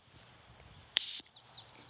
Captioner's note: whistle